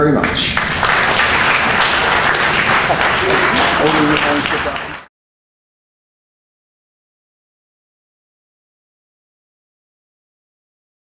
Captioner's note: audience applause